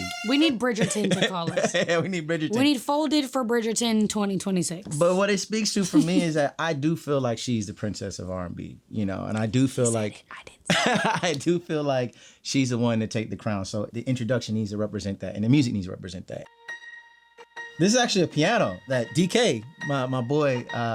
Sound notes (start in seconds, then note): 0.7 laughing; 10.7 laughing; 16.4 piano music